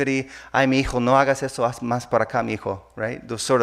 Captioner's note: speaking in a foreign language